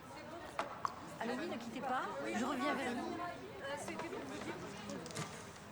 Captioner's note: speaking french